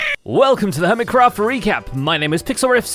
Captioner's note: strangled noises